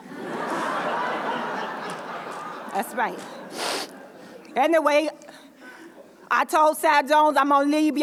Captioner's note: laughter